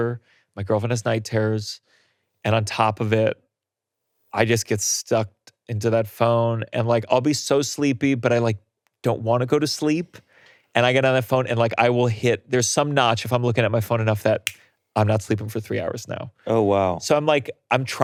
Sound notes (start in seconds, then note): none